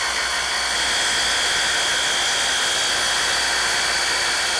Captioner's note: saw rasping